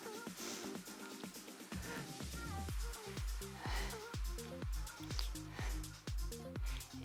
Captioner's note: upbeat music; panting